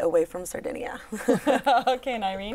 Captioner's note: laughter